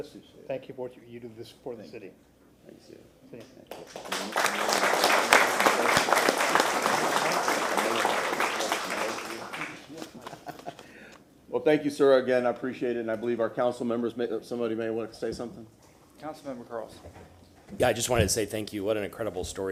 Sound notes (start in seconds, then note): 8.5 applause